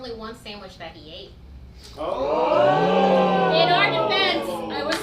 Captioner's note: audience ohs